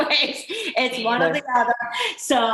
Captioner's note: laughing